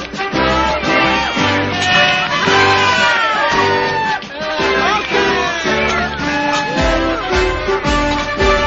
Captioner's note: cheering